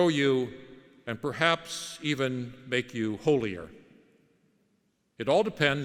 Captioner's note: none